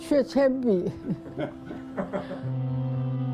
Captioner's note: laughter